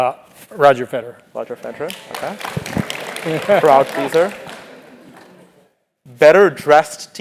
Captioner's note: applause